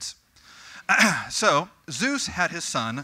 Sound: cough

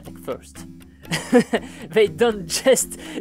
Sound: laughter

